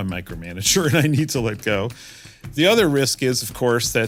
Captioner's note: laugh